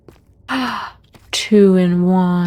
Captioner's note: gasp